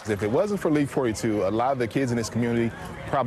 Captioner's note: cheers